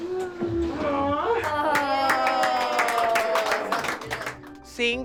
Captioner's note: cheering